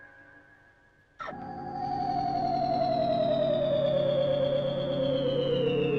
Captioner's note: strange modulating